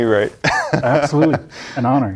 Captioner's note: laughing